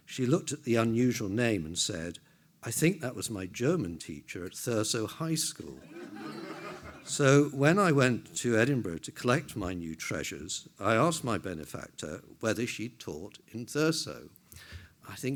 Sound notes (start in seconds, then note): 5.8 everyone laughs